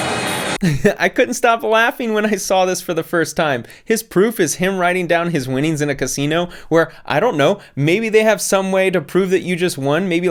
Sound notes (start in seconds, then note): 0.6 laughs